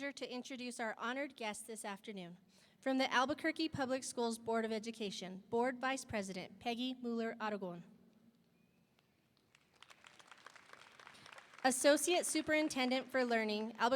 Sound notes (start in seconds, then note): 9.5 audience applauding